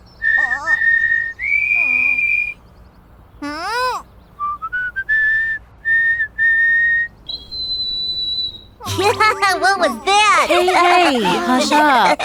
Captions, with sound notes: Hmph! [melodic chirping] [off-tune chirping] [laughs] What was that? - [laughter] - Hey, hey! Hush up!